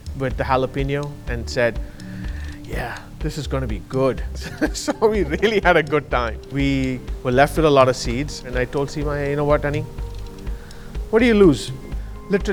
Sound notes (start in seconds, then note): 4.1 chuckling